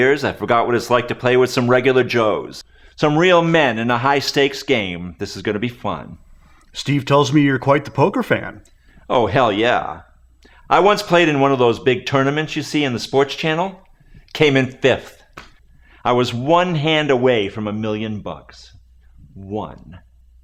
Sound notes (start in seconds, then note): none